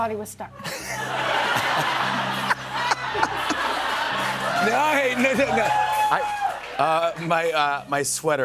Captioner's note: laughter